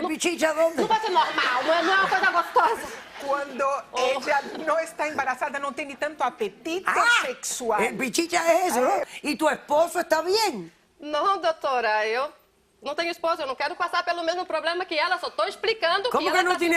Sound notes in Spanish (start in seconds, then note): 0.8 risas; 5.2 risas; 15.3 habla en portugués